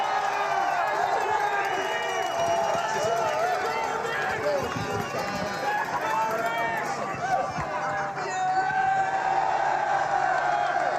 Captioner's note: cheers and Applause